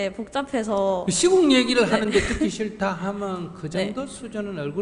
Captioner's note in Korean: 질문자 웃음